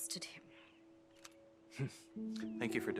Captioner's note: birds chirping